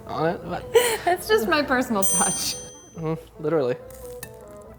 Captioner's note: laughing